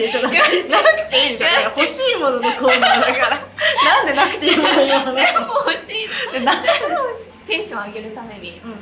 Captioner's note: laughs